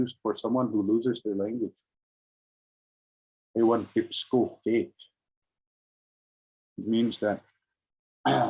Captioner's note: speaking in Indigenous language